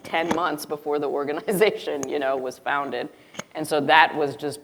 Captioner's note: chuckles